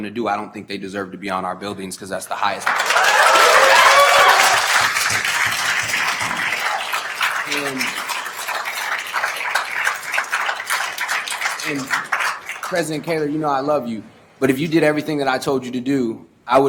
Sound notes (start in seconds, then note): 3.6 attendees applauding